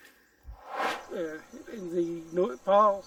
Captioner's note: air swooshes